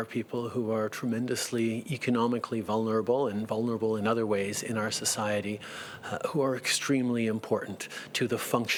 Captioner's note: speaking French